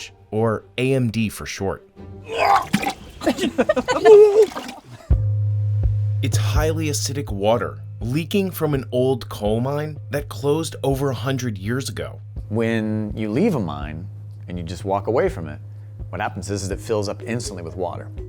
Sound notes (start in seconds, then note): 2.3 retching noise followed by laughter